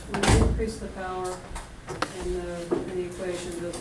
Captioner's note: voiceover